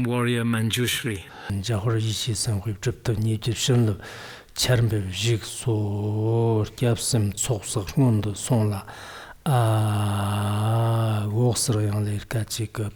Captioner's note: giving oral transmission in Tibetan